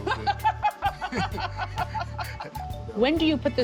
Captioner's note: both laugh